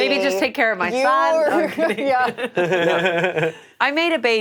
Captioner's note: all laughing